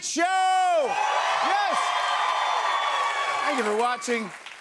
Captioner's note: cheers and applause